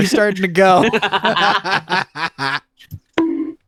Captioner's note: laughing